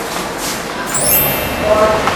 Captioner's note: sparkles